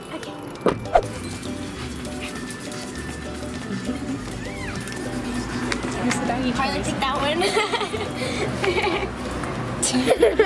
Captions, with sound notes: Okay. (whoosh) (dogs panting and sniffing) Harley picked that one. (giggling)